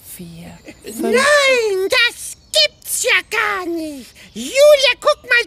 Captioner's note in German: ruft